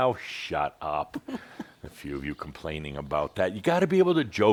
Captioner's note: continues chuckling